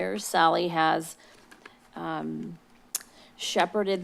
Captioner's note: smacks lips